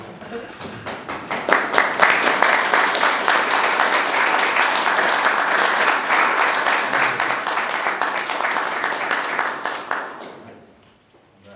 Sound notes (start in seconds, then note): 0.5 applause